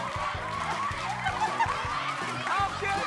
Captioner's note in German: Jubel